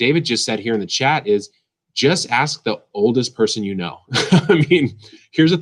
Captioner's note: laughs